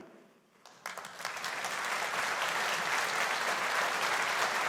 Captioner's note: audience applauding